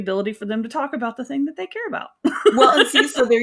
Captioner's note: laughing